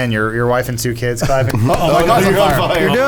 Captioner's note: claps